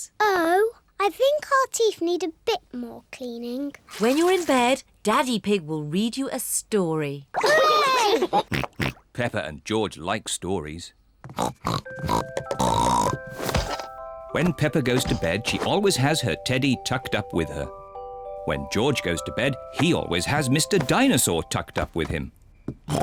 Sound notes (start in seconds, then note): 8.1 snorts excitedly; 12.5 snorting